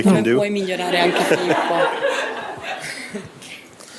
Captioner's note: speaking italian